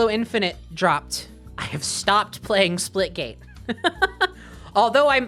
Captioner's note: laughing